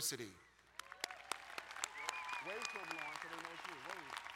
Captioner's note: applauding